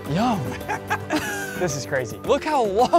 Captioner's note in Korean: 웃음